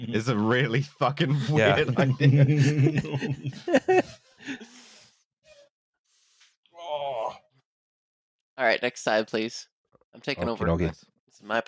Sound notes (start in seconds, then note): 3.6 laughter